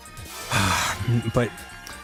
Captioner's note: exasperated sigh